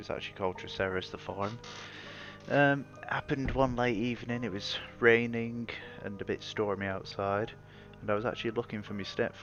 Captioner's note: creaking